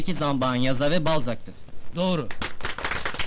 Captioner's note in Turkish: alkişlar